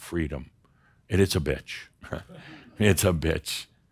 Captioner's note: some chuckles